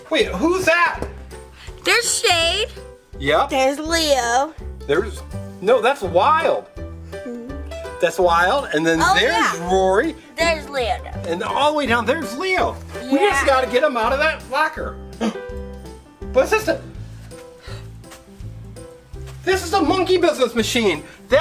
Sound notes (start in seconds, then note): 15.7 Mr. Engineer gasps; 17.4 assistant gasps